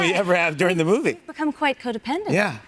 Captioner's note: audience laughs